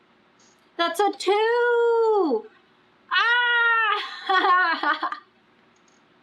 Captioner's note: laughs